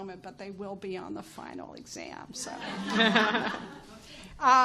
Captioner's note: chuckles